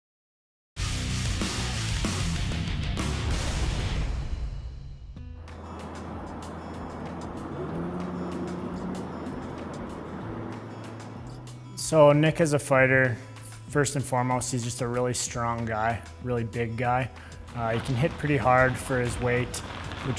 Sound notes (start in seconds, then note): 0.9 heavy metal music; 5.3 street noise; 5.4 light guitar music